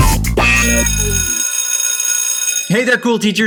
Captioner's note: school bell rings